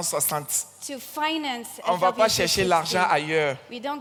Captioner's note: continues in French; continues in French